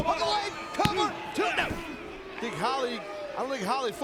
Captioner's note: hand slapping